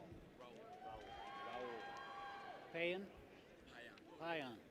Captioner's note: people cheer